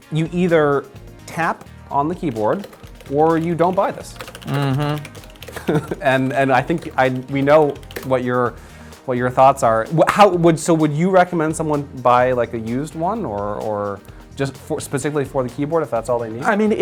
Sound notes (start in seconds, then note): 4.4 laughing